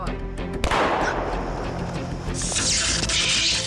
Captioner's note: gunshot